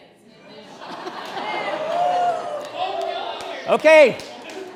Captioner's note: laughter and cheers